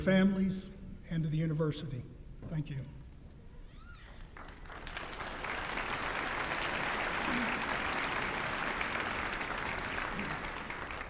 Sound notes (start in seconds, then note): 4.0 applause